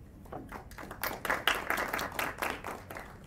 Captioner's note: applause